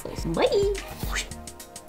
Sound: swoosh

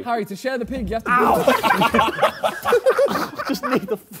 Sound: laughs

